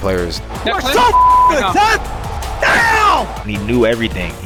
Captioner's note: yells